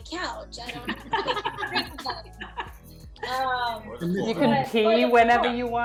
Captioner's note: group laughing drowns out speaker